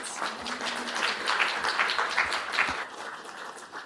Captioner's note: applause